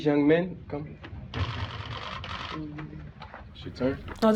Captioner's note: camera shutters clicking